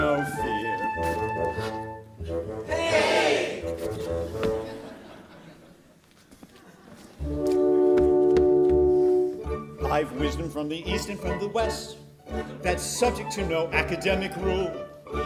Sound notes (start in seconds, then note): 2.6 orchesta shouts "hey!"